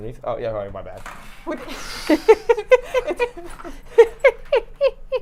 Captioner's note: laughing